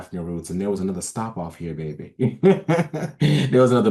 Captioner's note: laughs